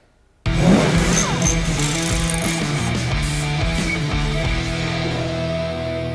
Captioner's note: intense rock music; tools whirring